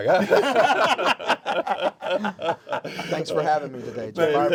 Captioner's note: all laugh